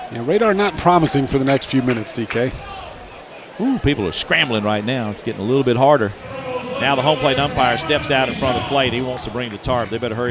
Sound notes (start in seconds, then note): 0.3 voiceover; 4.0 voiceover